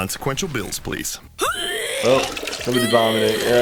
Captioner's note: vomit splashing